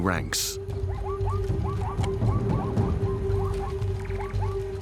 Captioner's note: zebras barking